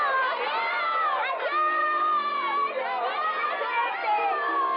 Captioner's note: all Shouting Good-bye